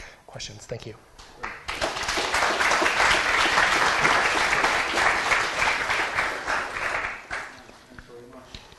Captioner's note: applause